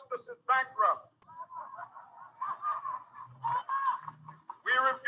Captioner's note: audience laughing